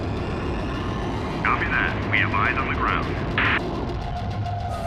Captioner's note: voiceover